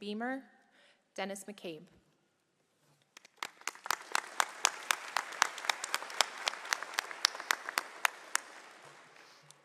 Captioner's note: applause